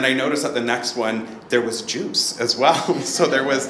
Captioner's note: laughs